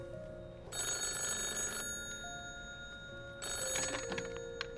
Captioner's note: phone continues ringing